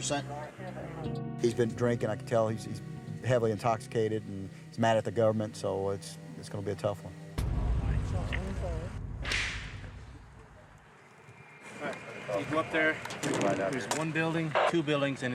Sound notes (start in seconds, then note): 8.9 gunshot